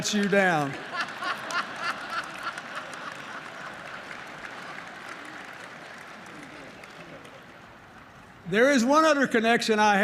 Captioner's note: laughter